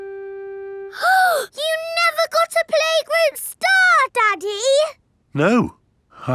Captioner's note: gasps